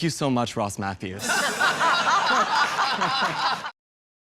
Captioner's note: laughing